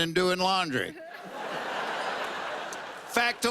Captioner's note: laughter